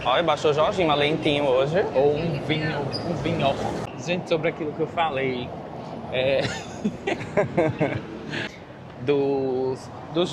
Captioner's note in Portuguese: risadas